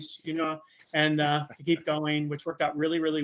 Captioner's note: laughing